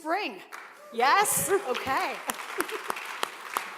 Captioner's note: cheers and applause